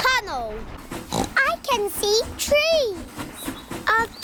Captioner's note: oinks